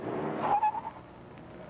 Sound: tires squeal

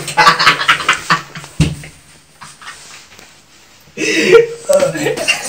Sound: laugh

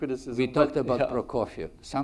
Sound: chuckles

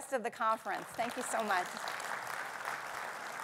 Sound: audience clapping

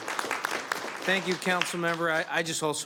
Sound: applause

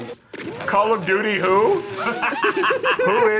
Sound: both laugh

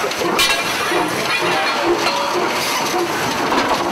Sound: train chugging

